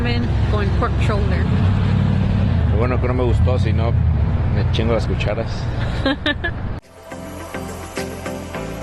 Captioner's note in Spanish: risas